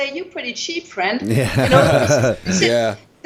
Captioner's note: laughter